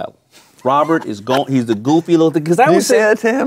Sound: laughing

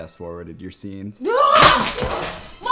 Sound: screams; knife drops

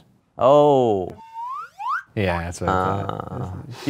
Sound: sound whistles upward

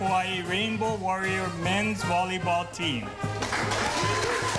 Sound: cheering

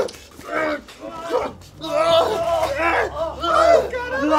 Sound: both continue grunting and groaning

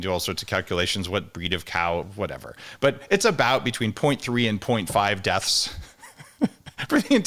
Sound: chuckles

